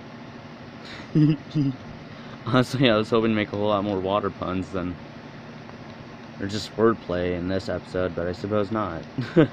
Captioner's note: anime School Girl Giggles